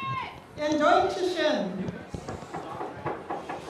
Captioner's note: speaking native language